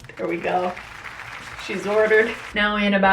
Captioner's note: applauding